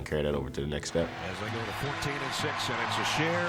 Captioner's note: audience cheers